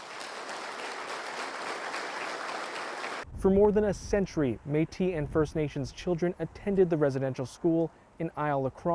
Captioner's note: applause